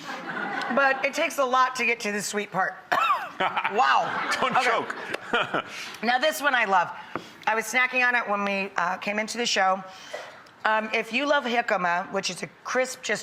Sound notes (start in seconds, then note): 0.0 audience laughing; 2.8 coughs; 3.1 laughs; 3.4 audience laughing